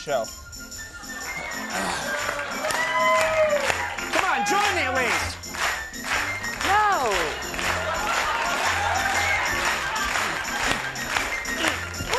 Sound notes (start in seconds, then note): 2.7 audience clapping in time with the band; 5.5 audience clapping in time with the band; 7.3 audience laughing